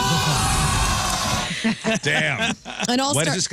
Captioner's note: all Screaming